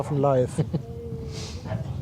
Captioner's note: laugh